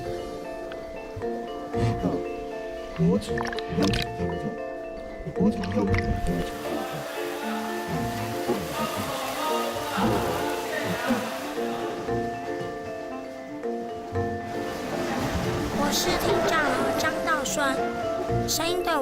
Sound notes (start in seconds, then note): 4.0 the outside world is full of joyous sounds